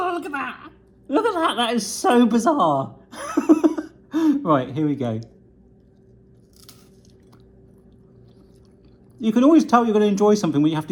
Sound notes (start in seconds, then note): 3.2 laughs; 7.0 munching